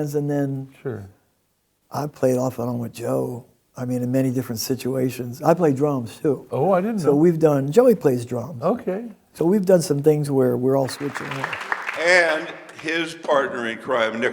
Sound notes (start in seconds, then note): 10.8 audience applauds